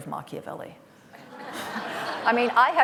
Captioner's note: laughter